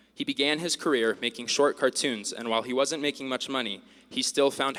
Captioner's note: none